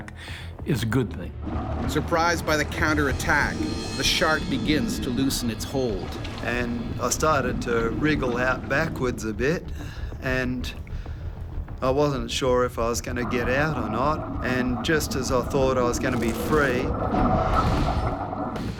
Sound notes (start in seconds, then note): 1.9 voiceover